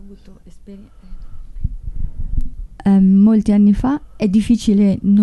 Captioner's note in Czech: mluví italsky